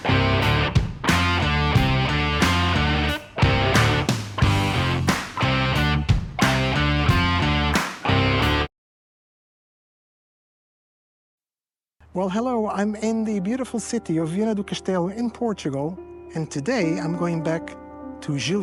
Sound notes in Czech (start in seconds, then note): 7.7 Potlesk